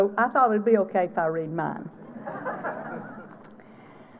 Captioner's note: laughter